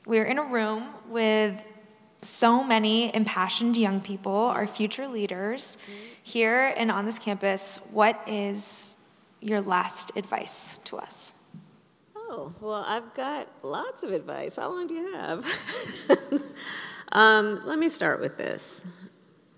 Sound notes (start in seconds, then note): 16.7 laughs